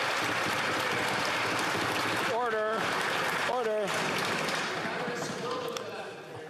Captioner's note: some Applause